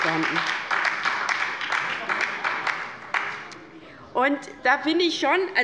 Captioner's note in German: Beifall bei der LINKEN und der SPD